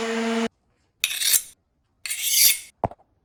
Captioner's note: knife sharpening sounds